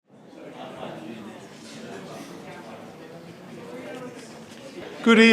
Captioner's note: attendees chattering